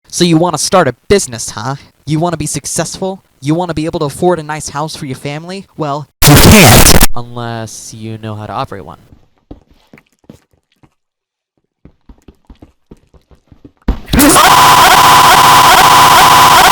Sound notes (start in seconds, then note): 9.4 Minecraft noises